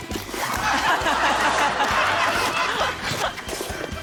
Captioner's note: laughter